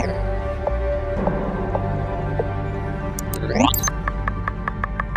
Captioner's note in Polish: dźwięk przeskakiwania po katalogach